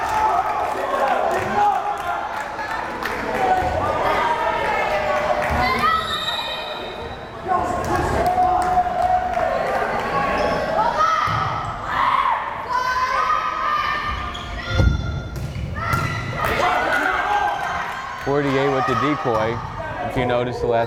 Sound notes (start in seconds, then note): 5.9 whistle blares